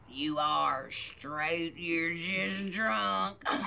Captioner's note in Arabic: يضحك